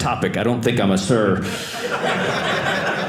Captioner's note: audience laughing